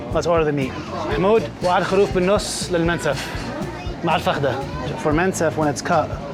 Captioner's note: speaking in Arabic